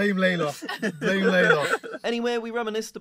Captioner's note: all laugh